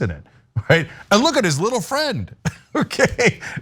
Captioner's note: laugh